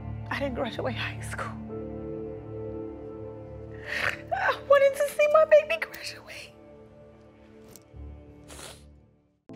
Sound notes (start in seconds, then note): 4.1 crying; 8.4 sniffles